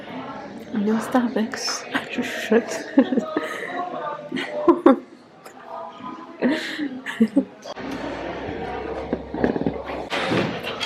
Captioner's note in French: rires